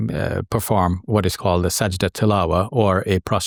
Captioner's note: speaks a foreign language